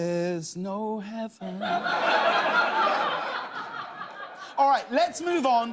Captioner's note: laughter